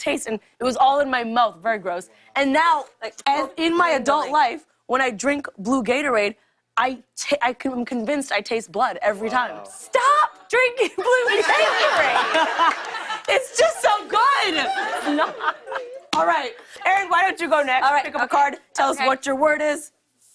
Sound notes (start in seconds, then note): 10.8 laughter